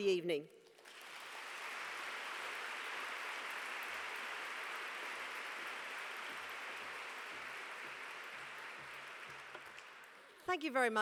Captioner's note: applause